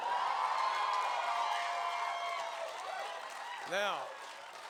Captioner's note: cheers and applause